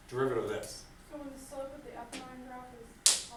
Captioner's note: voiceover